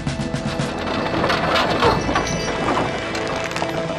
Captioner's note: cart rattling